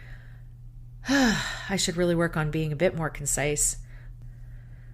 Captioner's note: sigh